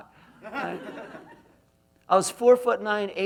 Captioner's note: laughs